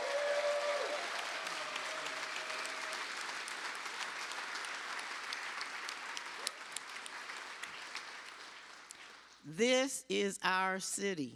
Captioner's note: cheers and applause